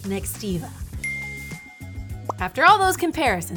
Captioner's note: bell dings